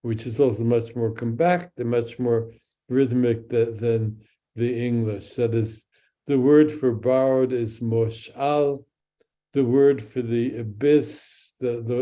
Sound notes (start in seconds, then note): 7.1 speaks in Hebrew